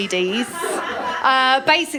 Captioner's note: laughter